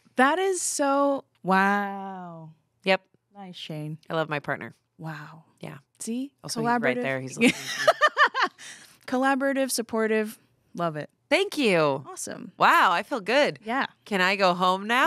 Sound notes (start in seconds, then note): 7.4 laughs